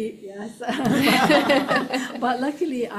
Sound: laughing; audience laughing

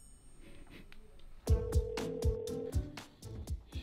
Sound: outgoing phone ringing

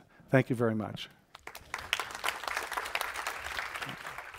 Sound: applause

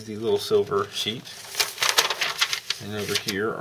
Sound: shuffling paper

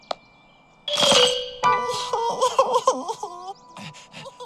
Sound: sobs

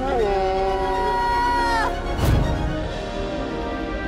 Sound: screaming

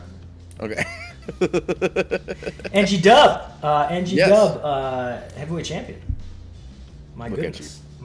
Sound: laugh

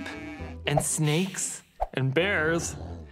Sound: sheep bleats; snake hisses; bear growls

